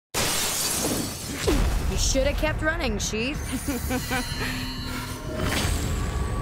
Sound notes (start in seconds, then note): 0.1 glass breaking; 3.5 chuckling